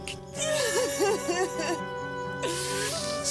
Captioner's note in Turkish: Ağlıyor